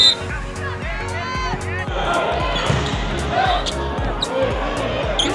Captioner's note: whistle blowing; athletes shouting